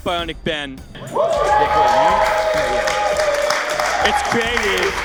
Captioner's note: audience cheering